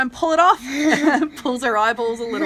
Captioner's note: giggles